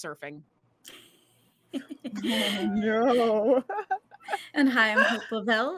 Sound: all laughing

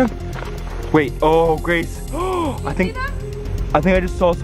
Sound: gasps

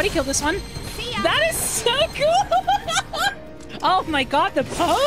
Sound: giddy Laughter

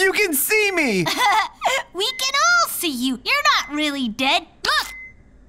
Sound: giggles

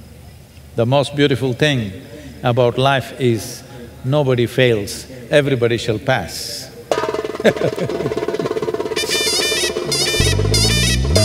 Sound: laughs

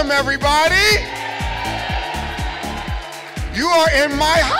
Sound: crowd shouting

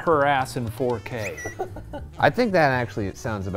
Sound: laughs

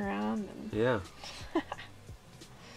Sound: laughs

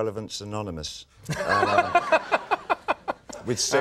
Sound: Conan laughing

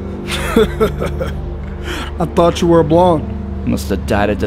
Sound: henchmen 2 laughs

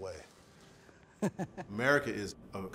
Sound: laughs

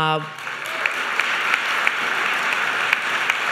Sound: applause

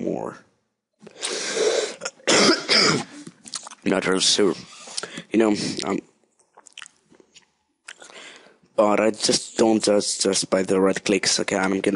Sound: cough cough

